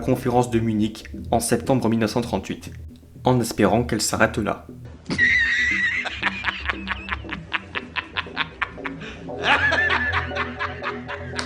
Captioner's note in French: rire